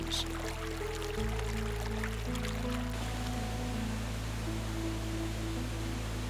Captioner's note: gentle music; water flowing